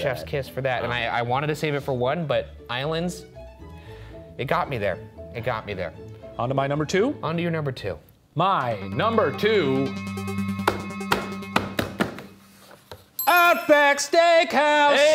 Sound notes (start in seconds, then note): 8.9 intense electronic music; 11.0 slapping board